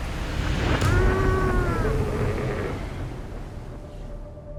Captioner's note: sea lion groans; gentle music